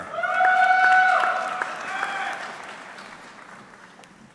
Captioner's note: audience cheering